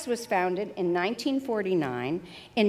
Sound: none

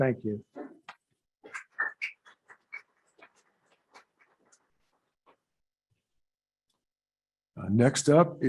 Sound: scattered applause

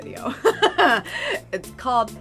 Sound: laughs

